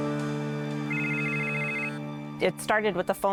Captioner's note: piano music; phone ringing